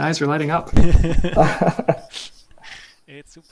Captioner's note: chuckling